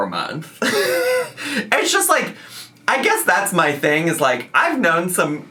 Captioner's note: laughing